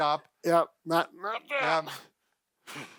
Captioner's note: grunts